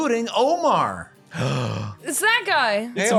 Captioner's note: gasp